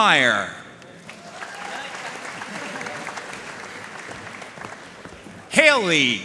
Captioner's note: audience cheering and applauding